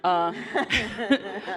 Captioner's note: laughter